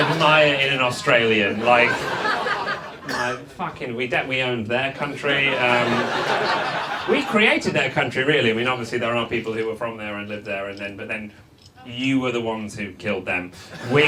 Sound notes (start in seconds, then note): 0.0 audience laughs; 5.0 audience laughs